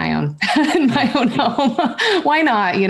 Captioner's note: chuckles